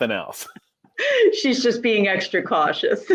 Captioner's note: all laughing